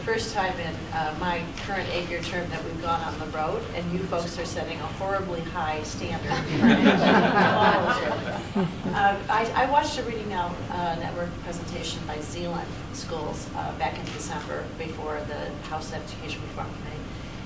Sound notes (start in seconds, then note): 6.2 laughter